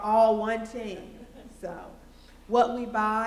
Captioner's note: laughter